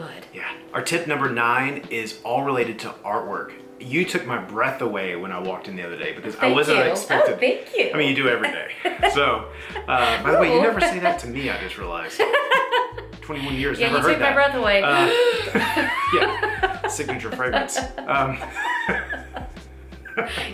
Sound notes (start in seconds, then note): 12.1 laughing; 14.9 both laughing